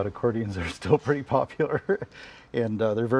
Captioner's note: chuckles